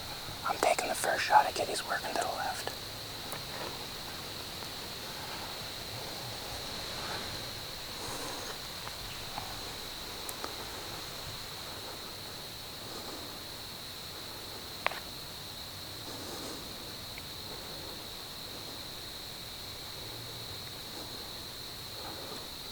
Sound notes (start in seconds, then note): 3.4 wind / heavy breathing